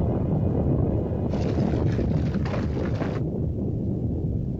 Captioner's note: explosion; volcano rumbles; shaking & clattering; volcano rumbles